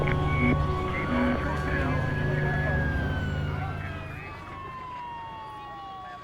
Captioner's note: sirens wailing